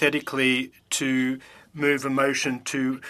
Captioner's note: speaking French